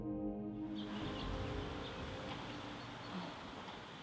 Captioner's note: bird chirping